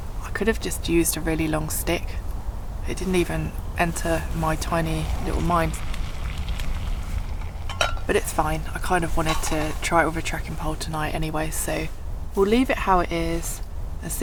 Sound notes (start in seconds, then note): 5.9 water simmering